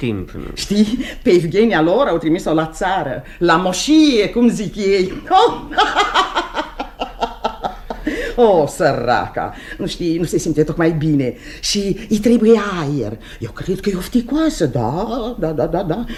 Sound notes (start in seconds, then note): 4.9 the woman laughs